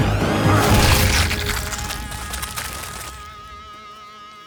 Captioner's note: goo splatters